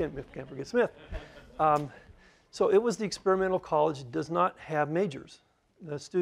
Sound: laughter

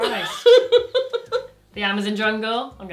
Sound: laughs

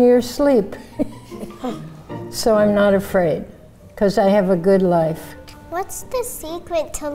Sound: chuckles

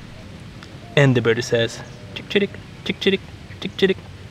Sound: bird sounds

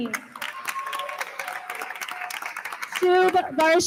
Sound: attendees applauding; attendees cheer

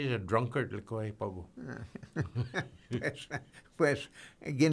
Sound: laughing

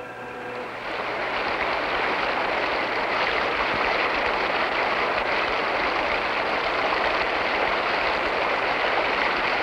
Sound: whirring engine fades into gushing water

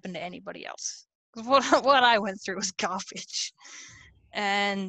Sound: laughs

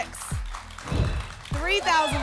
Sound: whoosh

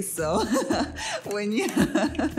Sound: laughs

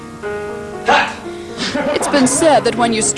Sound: crew laughter

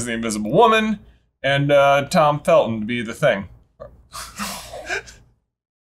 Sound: laughing

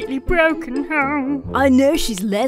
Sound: imitates author waffling

